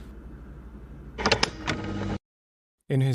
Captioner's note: recording stops